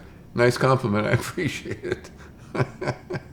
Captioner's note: laughs